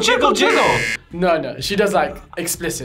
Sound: buzzer rings

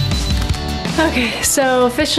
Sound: beeping; camera flash

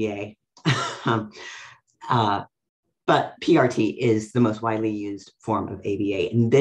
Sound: laughs

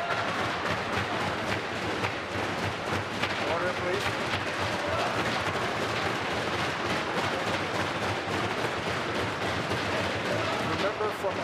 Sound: tapping on desks

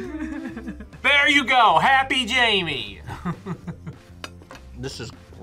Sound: laughs; laughs

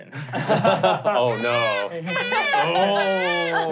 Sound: laughing; baby crying

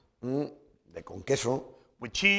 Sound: speaking spanish

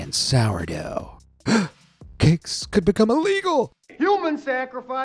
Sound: gasping

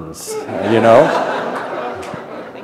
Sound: laughter

